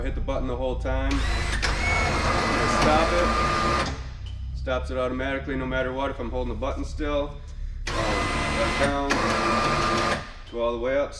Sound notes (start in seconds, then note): 0.0 machine hums; 1.0 machine whirs; 7.8 machine whirs